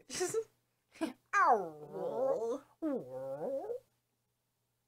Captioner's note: both mimic stomach growling noises